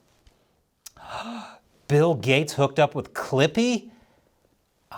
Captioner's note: gasp!